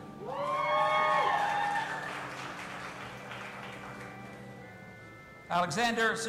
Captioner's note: audience applauding and cheering